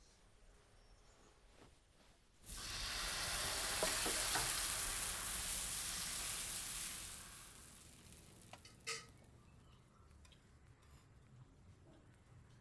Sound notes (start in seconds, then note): 2.4 dosa sizzles on the pan; 8.6 utensils clang